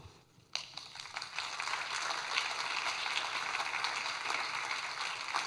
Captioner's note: audience clapping